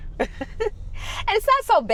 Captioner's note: laughing